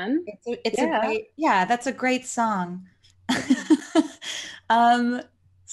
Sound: laughs

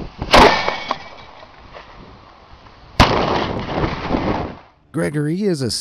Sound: cannon firing; cannonball exploding

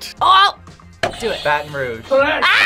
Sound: buzzer rings

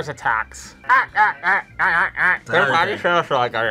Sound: grunts; both mumbling

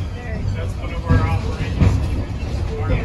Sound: noise from train, voices

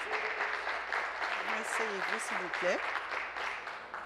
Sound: applause

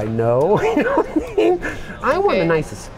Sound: laughs

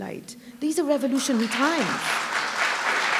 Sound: applause

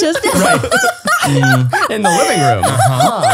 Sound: all laughing

